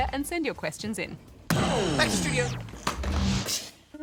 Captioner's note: computer loudly turns off